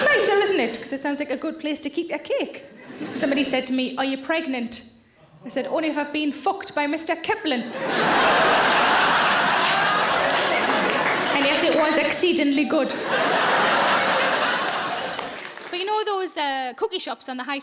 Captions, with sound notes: 'cause it sounds like a good place to keep your cake. Somebody said to me, "Are you pregnant?" I said, "Only if I've been fucked by Mr. Kipling. (audience laughing) And yes, it was exceedingly good." (audience laughing) But you know those cookie shops on the high street,